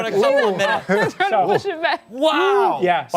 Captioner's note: laughter